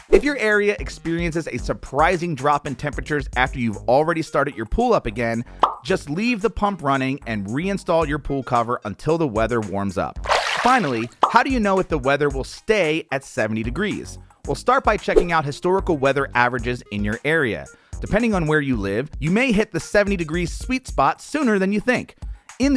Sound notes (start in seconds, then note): 10.2 splash